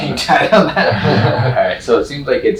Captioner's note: both laughing